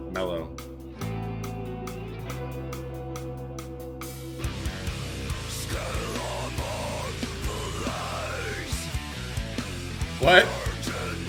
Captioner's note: groaning and screaming